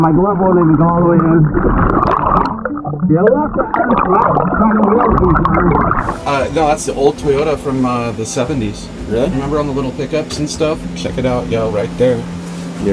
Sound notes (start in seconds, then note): 1.9 oxygen bubbling in water